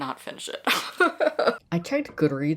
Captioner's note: laughing